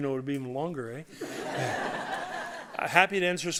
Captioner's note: laughter